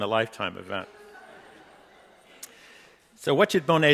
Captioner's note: audience laughing